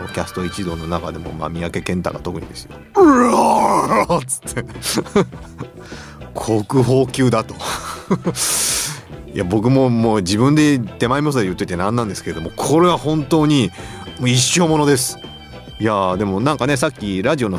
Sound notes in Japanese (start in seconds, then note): 7.6 笑い